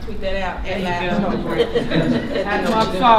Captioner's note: laughter